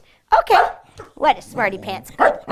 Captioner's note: barking